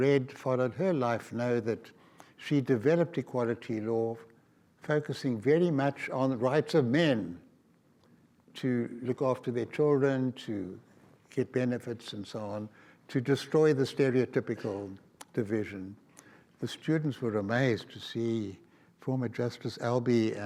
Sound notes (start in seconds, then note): none